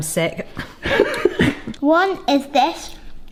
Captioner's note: laughs